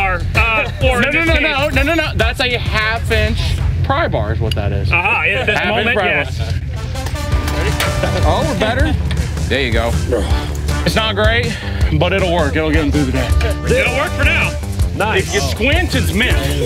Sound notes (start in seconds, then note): 7.4 loud clunk